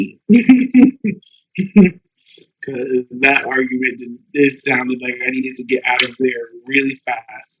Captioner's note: laughs